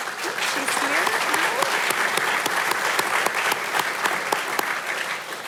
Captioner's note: audience applauding